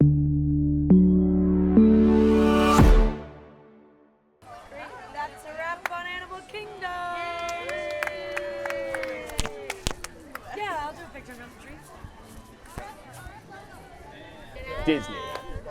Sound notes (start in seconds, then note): 0.0 bright music; 7.4 crew cheers and claps